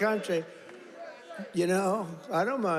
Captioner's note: audience chants "USA"